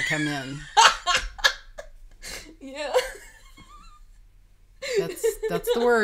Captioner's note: laughing